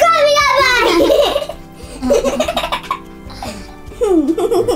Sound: laughs

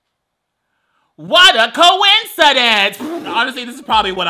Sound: laughs

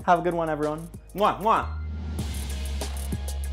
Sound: blowing kisses; upbeat music

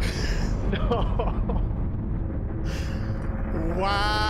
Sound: wheezing; chuckling

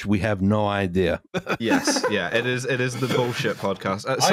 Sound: laughs

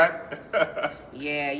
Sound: laughs

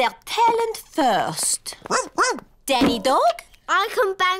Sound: barks

